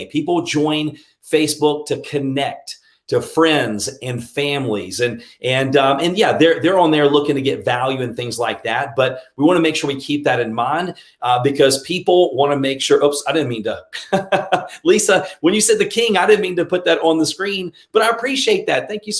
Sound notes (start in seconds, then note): 14.0 laughs